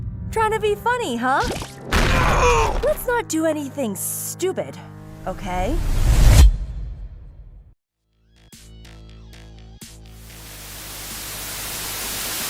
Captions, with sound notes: Trying to be funny, huh? [SCREAMS] Let’s not do anything stupid, okay?